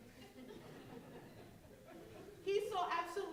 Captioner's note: laughing